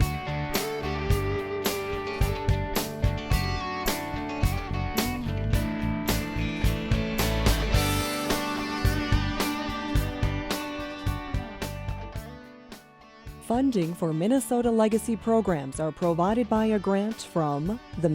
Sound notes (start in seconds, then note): 13.6 voiceover